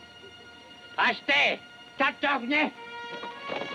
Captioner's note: Delgadito speaking foreign language; dramatic music